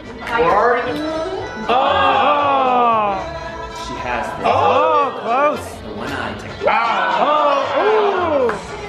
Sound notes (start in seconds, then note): 1.6 group groans; 6.6 group yells